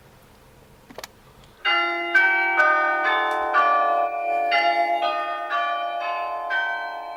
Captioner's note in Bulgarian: Църковни камбани RING ON TAPE